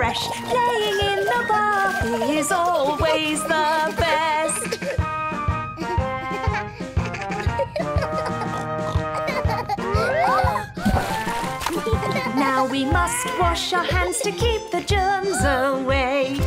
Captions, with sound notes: Playing in the bathroom is always the best. [laughter] Now we must wash our hands to keep the germs away.